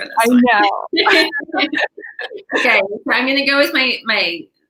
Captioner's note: laughing